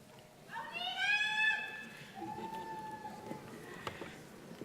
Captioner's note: audience member cheering